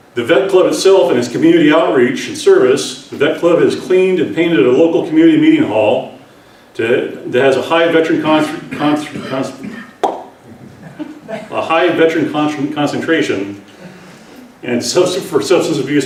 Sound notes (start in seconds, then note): 9.9 pops mouth; 10.5 laughter